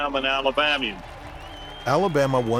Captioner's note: crowd cheering, crowd applauding